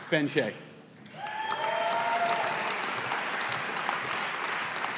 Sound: audience applauding

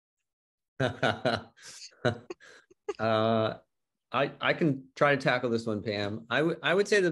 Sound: laughs

